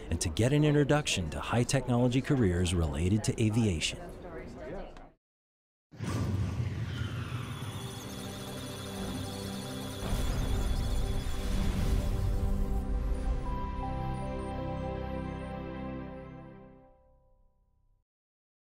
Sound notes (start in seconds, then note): 7.3 electronic sounds of data